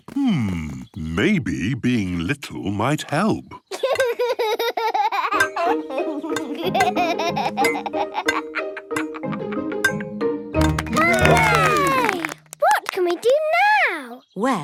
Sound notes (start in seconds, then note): 3.8 laughs; 10.6 all cheer